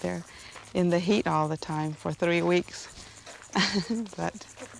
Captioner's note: laughs